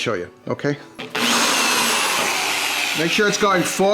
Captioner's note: drill whirring